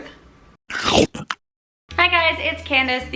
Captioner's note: chomping